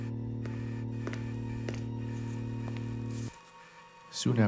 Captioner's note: footsteps padding